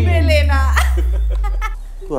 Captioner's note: Zeenia laughs